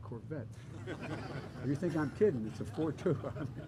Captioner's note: laughter